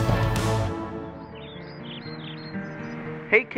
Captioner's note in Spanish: Pájaros pían